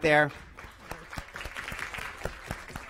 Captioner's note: applause